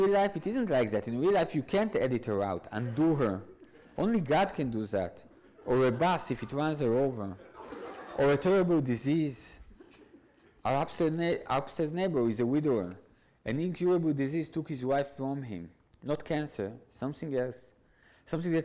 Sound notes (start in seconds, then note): 7.4 audience laughs